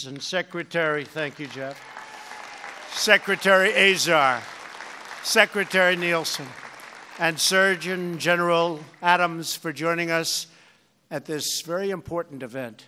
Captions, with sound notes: and Secretary -- thank you, Jeff. -- (Applause.) -- Secretary Azar, Secretary Nielsen, and Surgeon General Adams for joining us at this very important event.